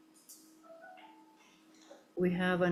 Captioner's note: notification beeps